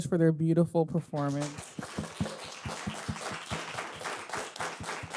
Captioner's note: audience clapping